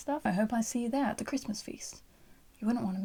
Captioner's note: British accent